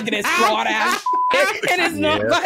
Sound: beep

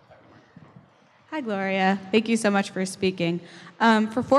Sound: voiceover

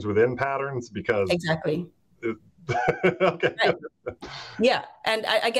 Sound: chuckles

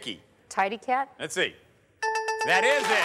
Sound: bell dinging

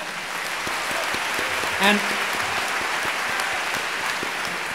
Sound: audience applauding

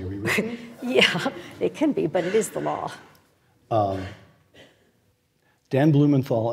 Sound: laugh

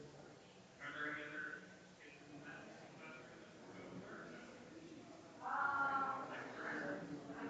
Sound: people chattering distantly continues

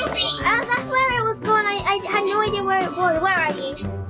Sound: raspberry laughs

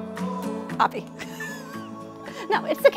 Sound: chuckle

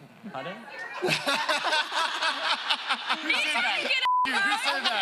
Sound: laughing

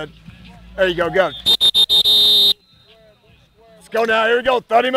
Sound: blows whistle

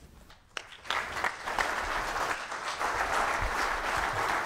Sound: audience applause

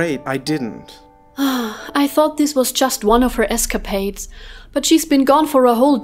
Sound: sigh

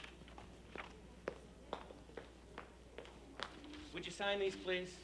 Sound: footsteps

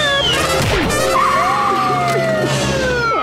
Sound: siren blaring

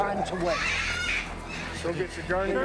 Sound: animal squawking

